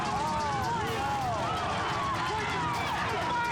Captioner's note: people shouting